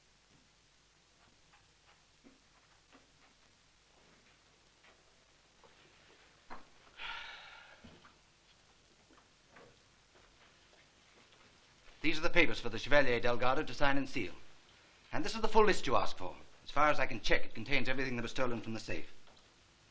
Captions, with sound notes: (SIGHING) These are the papers for the Chevalier del Gardo to sign and seal. And this is the full list you asked for. As far as I can check, it contains everything that was stolen from the safe.